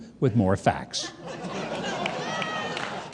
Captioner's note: laughter